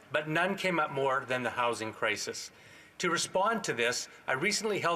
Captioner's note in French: voix de l'interprète